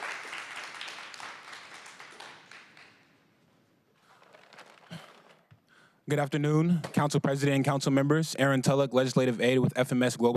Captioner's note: applause